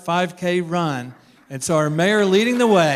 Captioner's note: applause